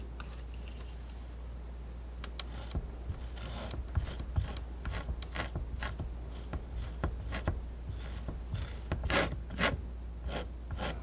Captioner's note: tapping